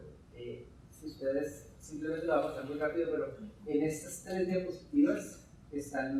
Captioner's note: speaking in Spanish